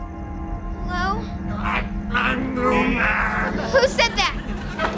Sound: moaning

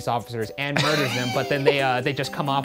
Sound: laughing

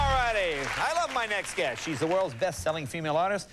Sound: cheers and applause

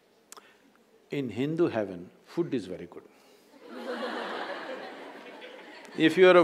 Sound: laughter

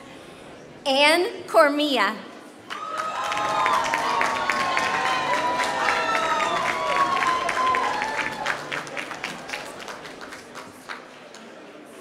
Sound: applause

